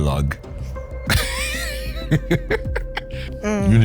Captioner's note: laughs